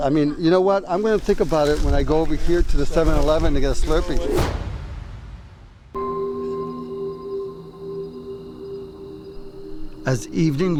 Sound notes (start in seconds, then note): 4.3 thud; 6.4 dramatic music